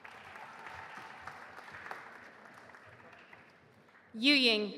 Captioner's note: audience applauding